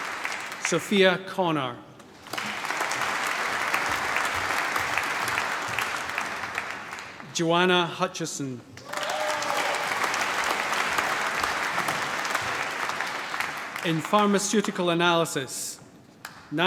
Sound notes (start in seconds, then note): 0.0 cheering, applause; 4.9 applause; 8.8 cheering, applause